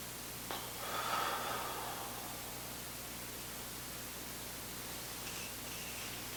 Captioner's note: breathing deeply